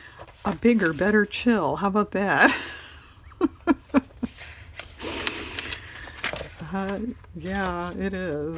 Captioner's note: laughs